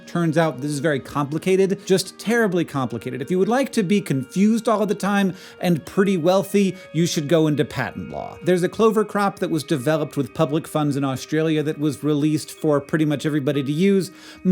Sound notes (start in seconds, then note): none